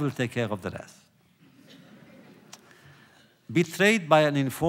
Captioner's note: laughter